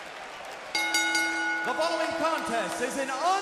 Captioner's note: bell ringing